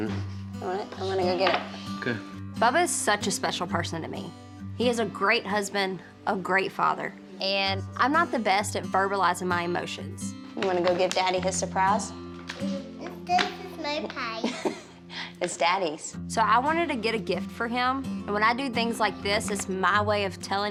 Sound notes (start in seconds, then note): 14.4 laughing